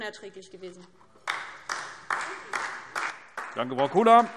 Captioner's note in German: Beifall DIE LINKE